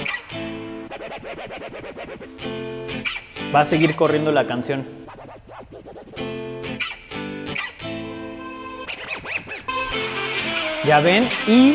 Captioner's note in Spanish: Scratch